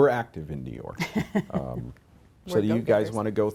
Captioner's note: laughs